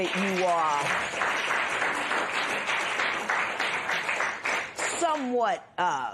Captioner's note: applause